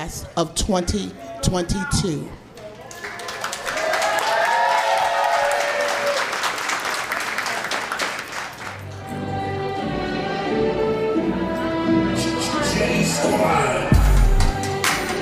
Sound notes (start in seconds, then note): 2.7 parents applauding